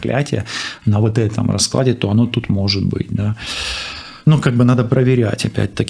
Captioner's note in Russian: тяжело вздыхает